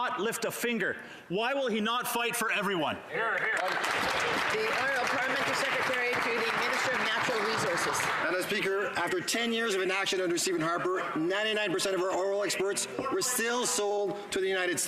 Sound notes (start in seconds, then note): 6.1 some Applause